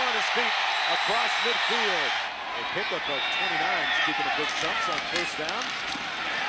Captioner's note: cheering